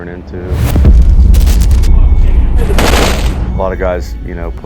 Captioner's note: bomb exploding; guns firing